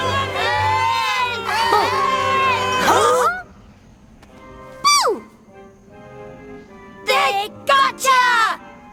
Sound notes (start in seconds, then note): 3.1 gasping